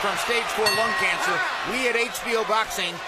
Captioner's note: bell rings